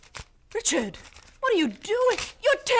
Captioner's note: paper tearing